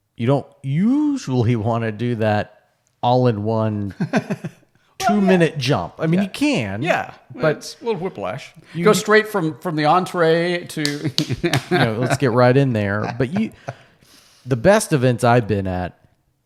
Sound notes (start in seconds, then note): 10.8 clapping; 10.8 laughing